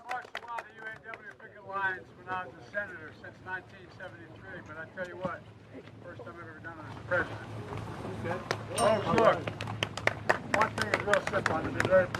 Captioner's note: applause